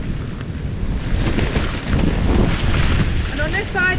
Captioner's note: wind